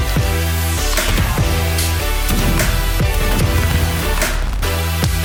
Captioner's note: cannons blasting